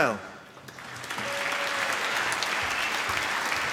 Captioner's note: applause